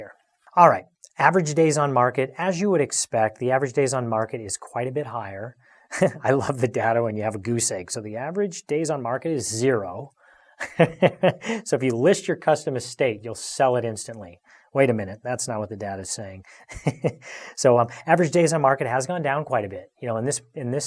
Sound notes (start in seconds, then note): 10.6 laughs